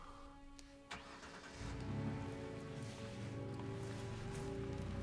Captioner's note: car engine rumbles